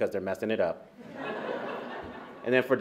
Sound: laughter

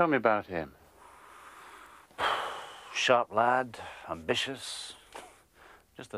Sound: sighs

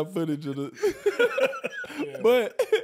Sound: laughing

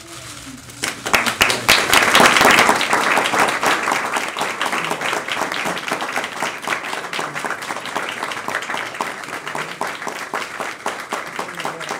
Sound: applause

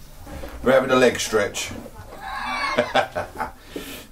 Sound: laughs

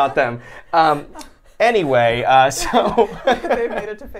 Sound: laughs

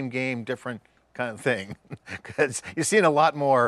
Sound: chuckles

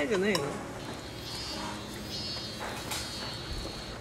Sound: cicadas are crying outside

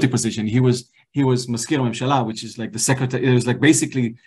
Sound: hebrew

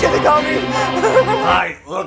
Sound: more laughter

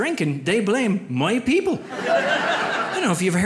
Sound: audience laughs

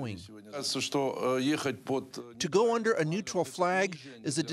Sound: speaking russian

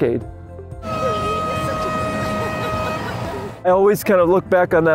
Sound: race horn blaring

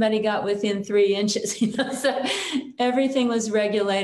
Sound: chuckles

